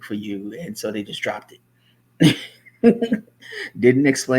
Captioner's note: laughs